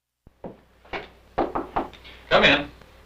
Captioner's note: knocks on door